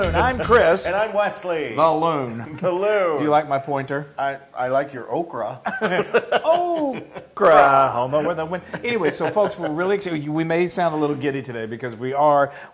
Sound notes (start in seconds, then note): 5.6 laugh